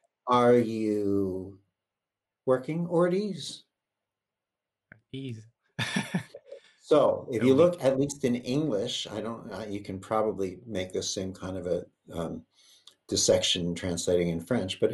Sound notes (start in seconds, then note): 0.0 chuckles; 5.8 laughs